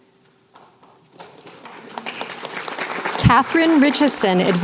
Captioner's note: applause